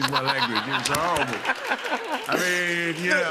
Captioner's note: laughs